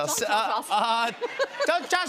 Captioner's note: laughter